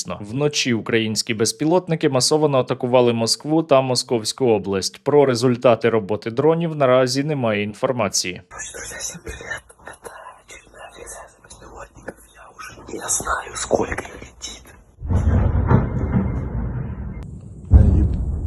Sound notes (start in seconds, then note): 8.8 whispers